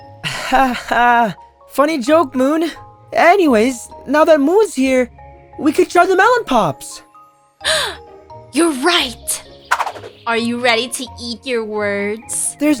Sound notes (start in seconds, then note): 7.6 gasp